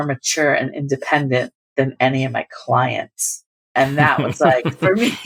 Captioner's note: laughter